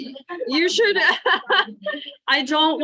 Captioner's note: laughs